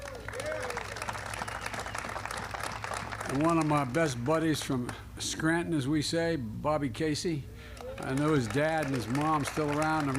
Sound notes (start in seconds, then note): 0.0 applause; 7.7 applause